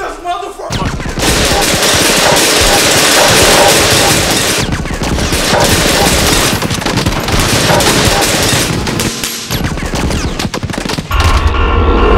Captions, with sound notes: SHOOT THIS MOTHER FU.... (GUNFIRE)